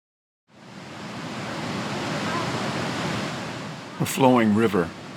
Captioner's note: river flowing